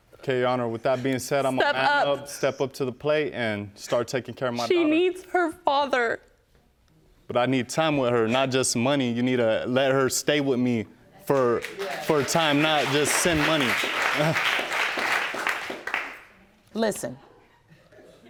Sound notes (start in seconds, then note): 11.3 audience clapping